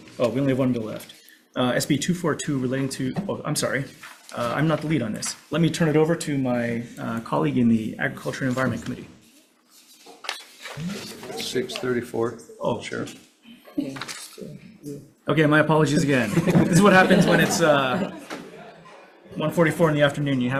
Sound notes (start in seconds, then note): 15.8 senators laughs